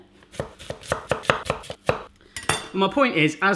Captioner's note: sharp chopping